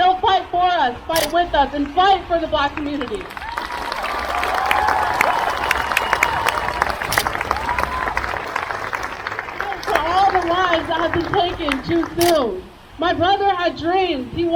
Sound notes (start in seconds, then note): 2.8 crowd cheers